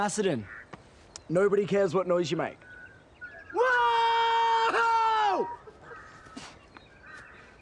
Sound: screams

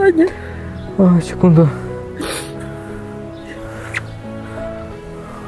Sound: crying

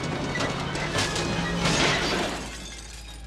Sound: glass breaks

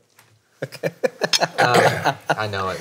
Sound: laughs

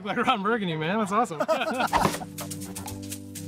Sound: lighthearted music; both laughing

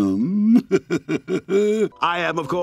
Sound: laughing

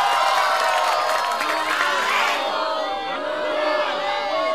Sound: all jeering

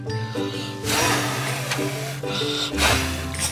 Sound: blowing

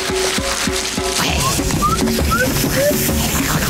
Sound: tribal drumming; indistinct chattering; chattering continuing

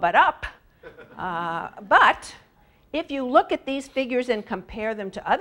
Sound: laugh

